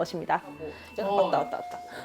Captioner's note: ding-dong